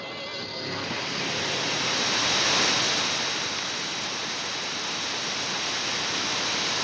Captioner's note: crescendo of radio static, almost a wailing song